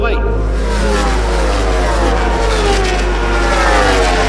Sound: motorcycles flying

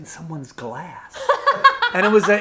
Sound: laughing

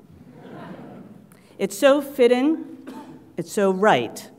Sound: laugh

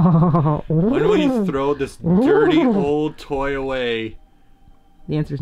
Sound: gurgling purring noises

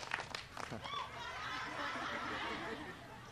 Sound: applause

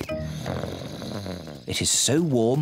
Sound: snores

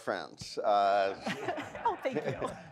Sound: laughs; audience laughs

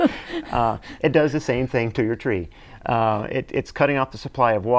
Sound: laughing

